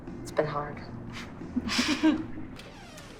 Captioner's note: both chuckle